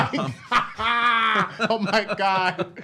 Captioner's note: laughs